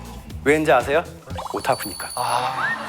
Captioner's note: powerfully confident